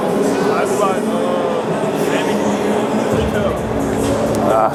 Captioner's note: grunts